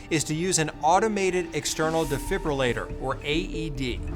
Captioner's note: graphics swishing